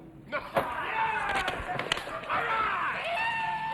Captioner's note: hand claps; book smacks